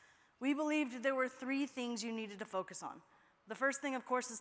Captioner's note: none